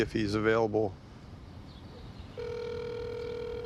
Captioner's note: phone ringing